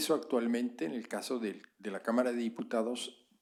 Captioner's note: spanish